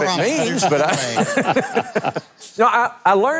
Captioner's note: audience laughs